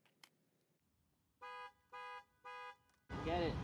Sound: car horn beeps again

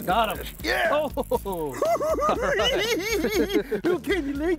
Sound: cackling

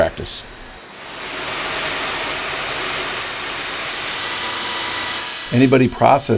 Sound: machine noise

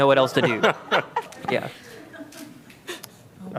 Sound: laughter

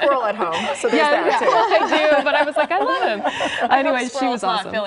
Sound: laughter

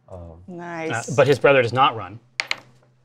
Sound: die clatters

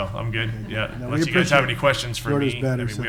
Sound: people chuckling

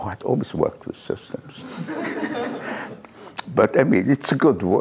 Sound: laughter

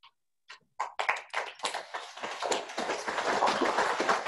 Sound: audience clapping

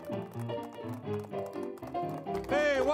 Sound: audience applauding

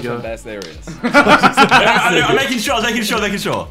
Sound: everyone laughing

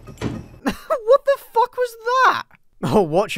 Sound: laugh

